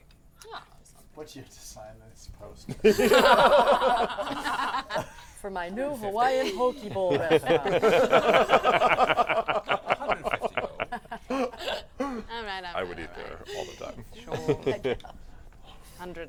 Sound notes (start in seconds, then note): 2.6 laughter; 8.1 laughter